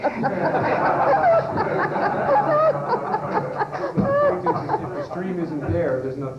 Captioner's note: laughter